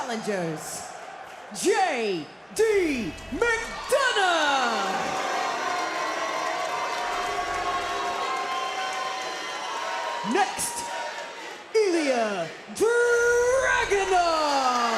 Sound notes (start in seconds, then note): 7.2 crowd cheers